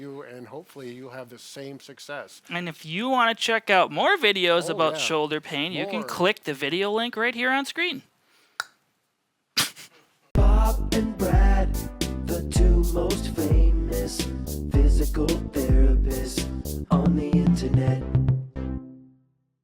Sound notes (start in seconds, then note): 8.8 giggles; 9.6 clicks tongue